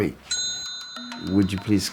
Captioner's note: bell chimes